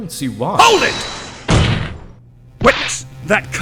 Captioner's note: desk slam!